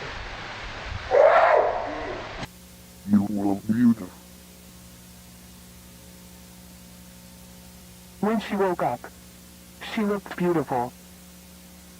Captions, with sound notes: (shout) You will beautiful. When she woke up, she looked beautiful.